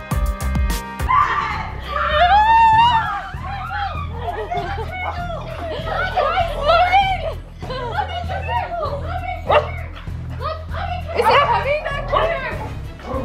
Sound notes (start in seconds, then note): 1.0 screaming; 9.4 dog barks